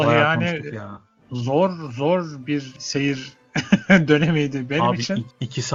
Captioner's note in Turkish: kahkaha